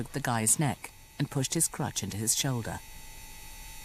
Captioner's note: voiceover